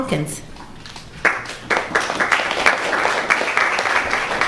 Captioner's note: crowd applauds